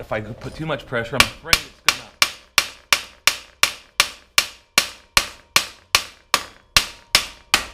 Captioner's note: hammer tapping